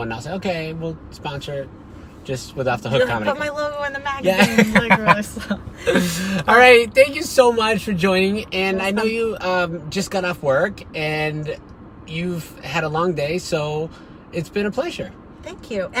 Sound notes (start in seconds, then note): 4.3 laughing